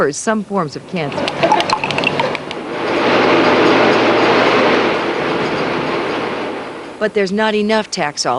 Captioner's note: fans whirring